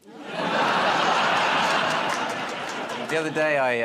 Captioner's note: laughter